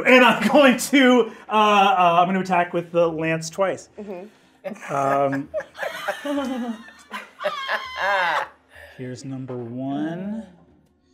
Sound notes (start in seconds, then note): 4.6 laughing